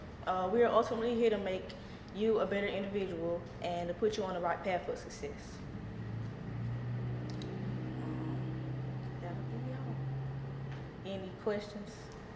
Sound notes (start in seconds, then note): none